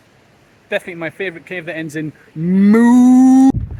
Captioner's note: Moo